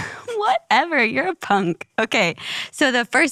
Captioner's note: laughs